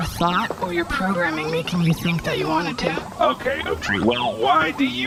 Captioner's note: exasperated